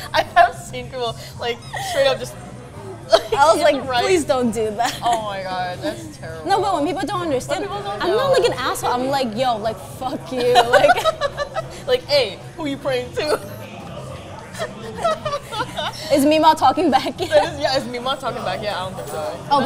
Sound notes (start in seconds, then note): 10.5 laughs; 14.5 both laughing